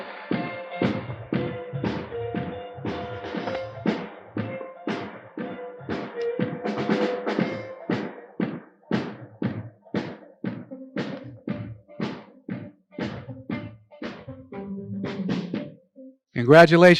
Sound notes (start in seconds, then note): 2.7 applause